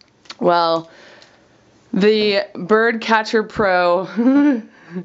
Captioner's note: giggles